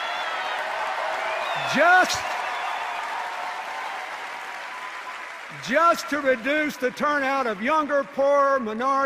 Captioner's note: jeers